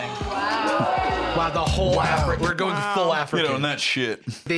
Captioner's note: girls ooh-ing and ahh-ing